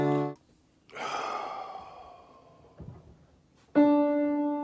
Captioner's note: sighs loudly